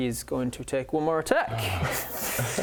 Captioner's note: sigh